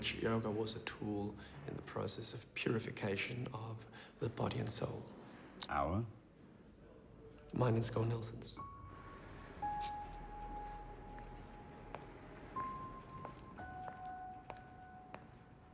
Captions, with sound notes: in which yoga was a tool in the process of purification of the body and soul. - "Our?" - Mine and Schouw Nielsen's. (footsteps clack)